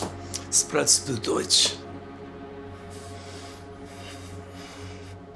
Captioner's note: officer speaking German